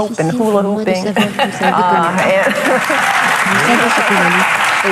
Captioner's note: audience laughing